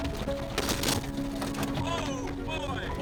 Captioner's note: window crunches